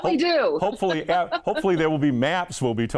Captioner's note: laughing